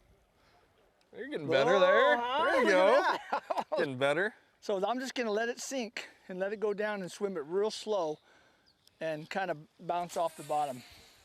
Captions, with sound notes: whoa you are getting better there there you go [laughter] getting better so I am just going to let it sink then let go dwn and let swim real slow and kind of let it bonce off the bottom